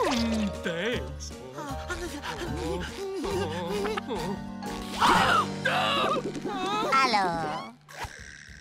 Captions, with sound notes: Thanks. [breathing nervously] [whimpering] - [gasps] - [shouts] Hello.